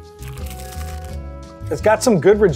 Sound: pizza crunches

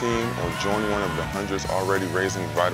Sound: group cheers

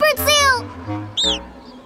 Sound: squawking

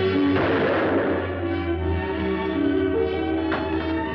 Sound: gun fires

